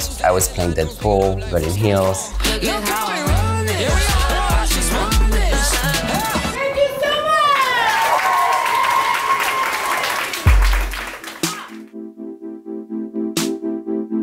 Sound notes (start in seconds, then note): 6.9 crowd applauding and cheering; 10.4 electronic music